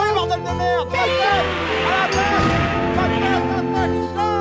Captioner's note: japanese music; Godzilla's roaring